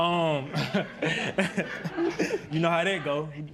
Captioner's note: laughs